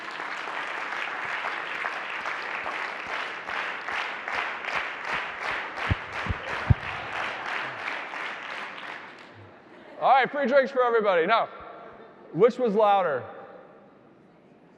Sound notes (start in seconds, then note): 0.2 audience applauding; 3.6 audience clapping rhythmically